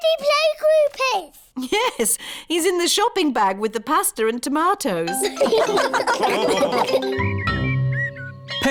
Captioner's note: all laugh